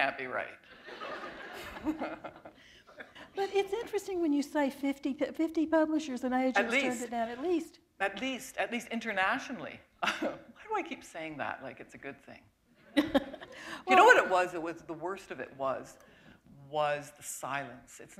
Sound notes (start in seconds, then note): 0.7 laughter; 13.0 chuckle